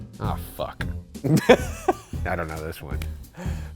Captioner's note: laughing